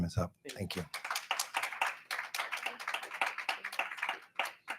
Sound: attendees clap

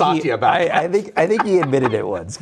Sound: laughs

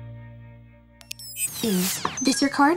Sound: electronic beeping

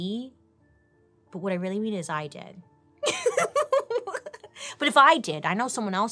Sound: laughs

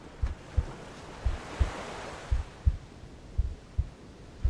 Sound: waves crash

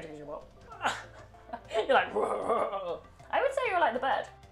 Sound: mimics Sim

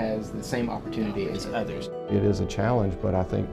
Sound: voiceover

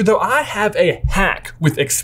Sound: none

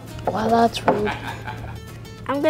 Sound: narrator laughs

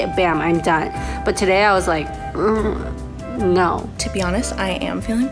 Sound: moans

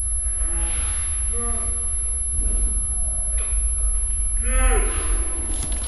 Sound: man yells slowly and distortedly

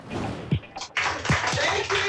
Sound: applause

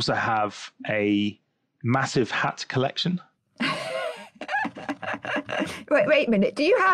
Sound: laughs

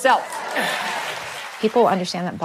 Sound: applause

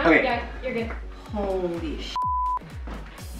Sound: beep

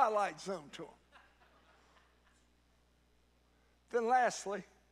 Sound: congregant laughs

